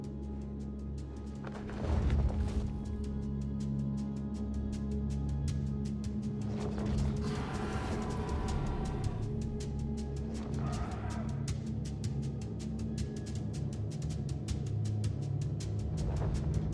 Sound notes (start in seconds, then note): 0.1 dramatic music; 9.3 dragon growls